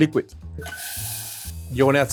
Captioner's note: beans whooshing